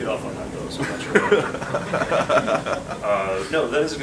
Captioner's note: audience laughs